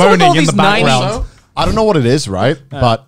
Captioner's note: murmurs